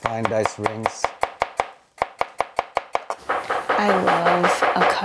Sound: knife cutting

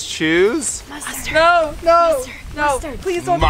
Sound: whispers

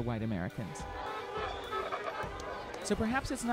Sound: horn honks

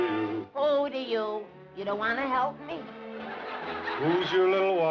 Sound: laughter

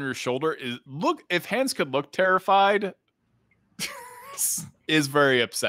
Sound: laughs

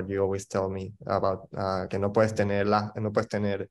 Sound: speaking in foreign language

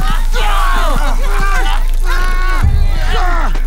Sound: Hank groaning

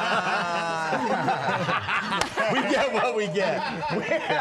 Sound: laughter

